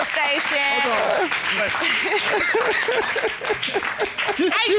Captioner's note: audience applauds; laughing